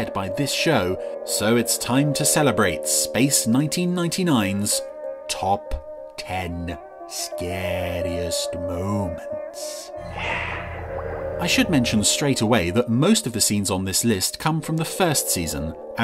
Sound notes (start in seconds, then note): 9.7 hissing